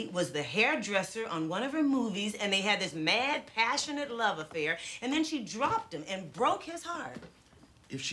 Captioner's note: none